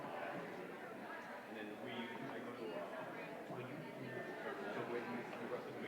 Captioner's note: indistinguishable chatter